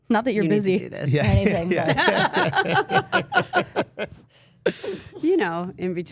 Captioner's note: everyone laughing